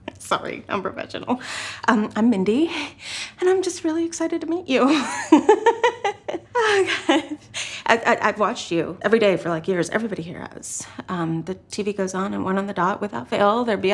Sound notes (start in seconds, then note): 4.9 laughs